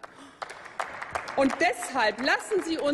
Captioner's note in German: Applaus